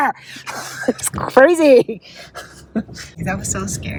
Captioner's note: laughs